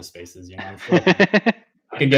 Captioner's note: laughs